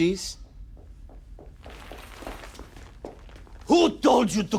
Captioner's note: hurried footsteps clacking